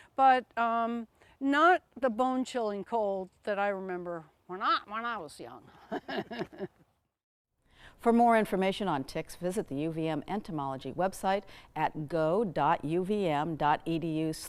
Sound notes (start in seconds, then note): 5.8 laughs